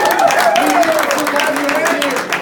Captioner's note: cheers